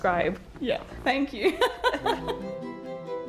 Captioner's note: laughing; dramatic music